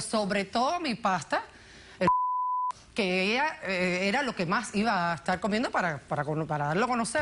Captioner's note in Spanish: Bip